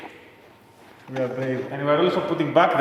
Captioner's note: mumbles: We are brave